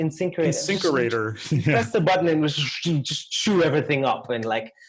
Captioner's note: laugh